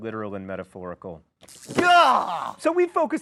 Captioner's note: electricity buzzing